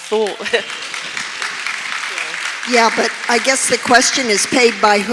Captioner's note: clapping